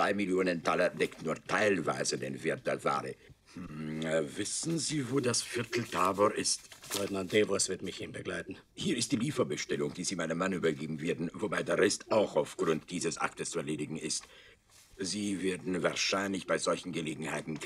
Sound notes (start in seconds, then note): 2.6 in German; 6.2 in German; 8.1 in German; 13.4 in German; 17.0 in German